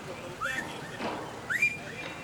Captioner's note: whistles